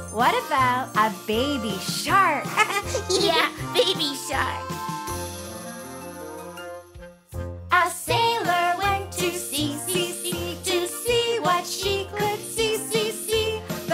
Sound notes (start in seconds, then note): 2.5 chuckles